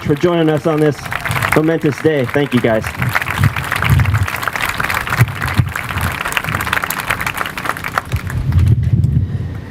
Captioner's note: applause